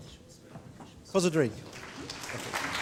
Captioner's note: speaks in foreign language; audience applauding